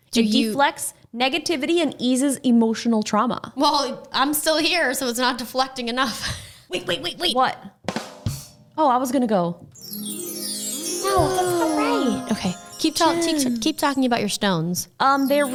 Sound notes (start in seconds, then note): 9.7 chiming